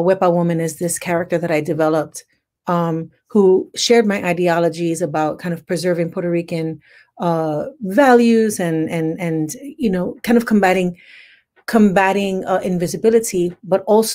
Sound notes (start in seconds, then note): none